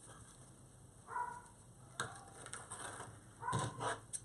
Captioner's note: dogs barking